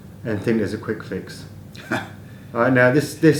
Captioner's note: chuckle